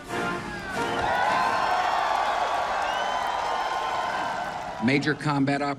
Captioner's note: cheers and applause